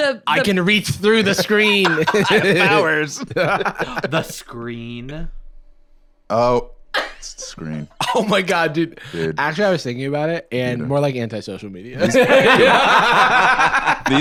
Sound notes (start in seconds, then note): 1.2 both laughing; 4.8 gasps; 12.0 laugh